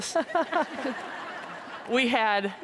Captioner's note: audience laughs